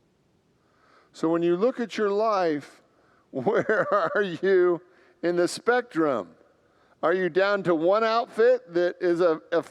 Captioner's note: laughs